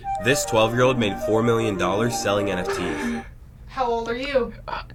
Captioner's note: laughs